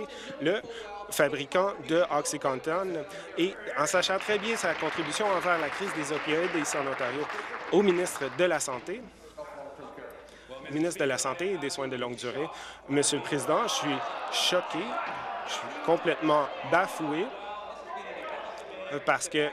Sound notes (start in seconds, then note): 8.8 applause